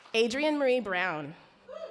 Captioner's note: audience cheer